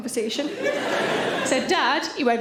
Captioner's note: audience laughing